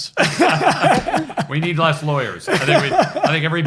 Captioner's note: laughs